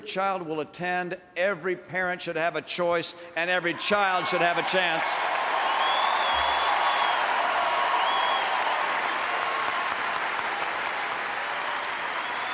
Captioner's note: applause